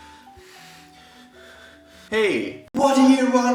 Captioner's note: breathing